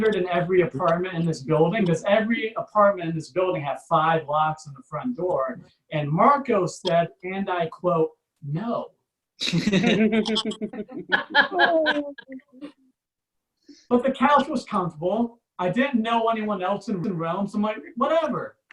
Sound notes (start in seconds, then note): 9.7 audience Laughs